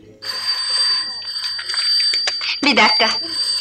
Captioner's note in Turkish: Telefon zili